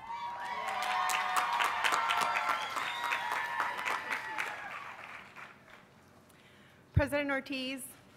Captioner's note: cheers and applause